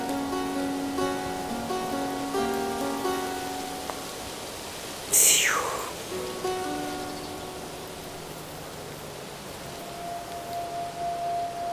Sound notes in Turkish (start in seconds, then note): 4.9 Üfleme sesi